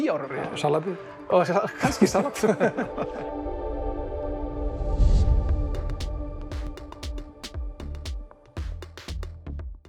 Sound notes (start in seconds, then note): 4.6 laughing